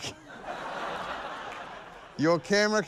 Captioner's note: laughter